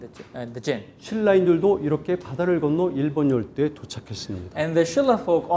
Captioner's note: speaking in Korean